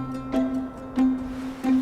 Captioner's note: waves crashing; upbeat music